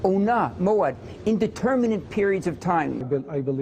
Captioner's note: speaking in Hebrew